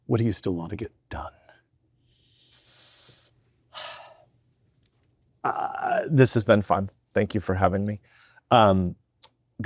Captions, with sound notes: What do you still wanna get done? - (sighs) This has been fun. Thank you for having me.